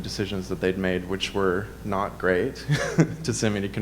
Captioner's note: chuckles